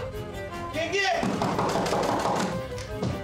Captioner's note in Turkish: Kapı tıklıyor